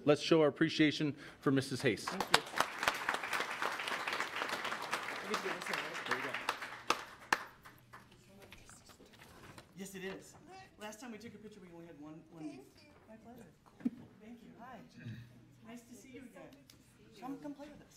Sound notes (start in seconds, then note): 1.7 applause; 8.5 people conversing